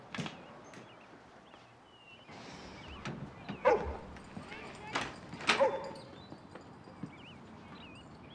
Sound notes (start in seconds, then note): 3.5 door opens; 3.6 angus barking